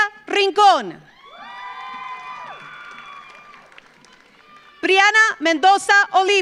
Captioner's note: audience cheers; audience applauds